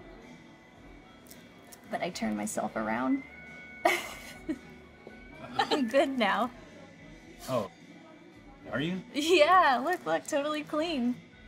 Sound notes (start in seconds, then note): 3.7 Keely chuckles